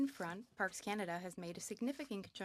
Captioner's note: speaking French